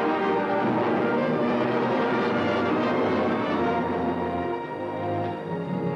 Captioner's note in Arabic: موسيقى منتصرة; هدير محركات الطائرة